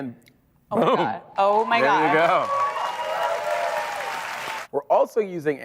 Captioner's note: audience cheers